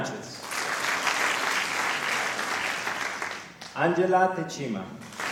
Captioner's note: applause